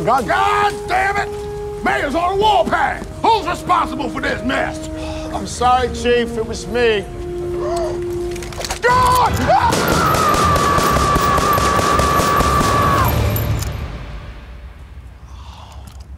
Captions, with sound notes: - God dammit! Mayor's on a warpath. Who's responsible for this mess? - I'm sorry, Chief, it was me. Gun! (officer yelling) (gun booming)